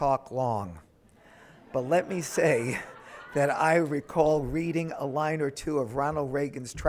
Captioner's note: audience laughing